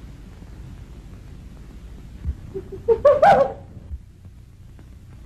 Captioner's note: animal sounds